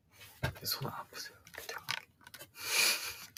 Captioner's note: 𝓌𝒽𝒾𝓈𝓅𝑒𝓇𝒾𝓃𝑔 𝓉𝑜 𝒸𝒽𝑒𝒸𝓀 𝑜𝓃 𝓉𝒽𝑒 𝓈𝓉𝒶𝒻𝒻 𝒽𝑜𝓁𝒹𝒾𝓃𝑔 𝓉𝒽𝑒 𝒸𝒶𝓂𝑒𝓇𝒶